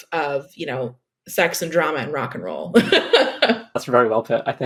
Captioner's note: laughs